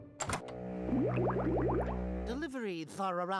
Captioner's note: gurgling